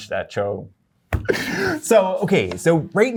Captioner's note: laughter